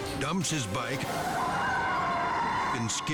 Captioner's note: tires skidding